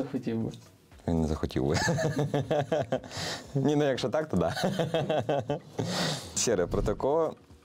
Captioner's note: laughs